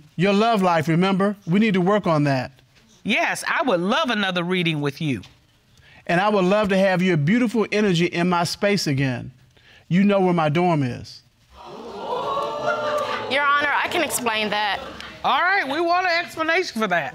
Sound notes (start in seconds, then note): 11.5 audience gasping